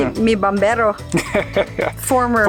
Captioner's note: speaks foreign language; laughs